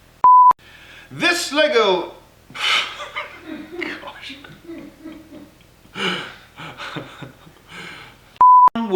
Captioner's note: laughter